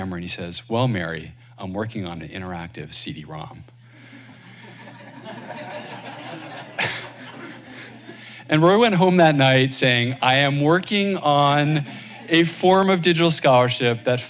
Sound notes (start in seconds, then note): 4.1 laughter